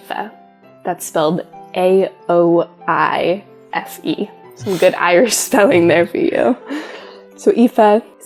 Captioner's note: laugh